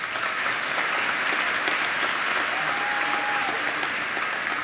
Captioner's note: applause